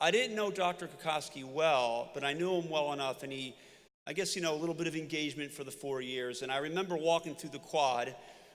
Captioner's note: none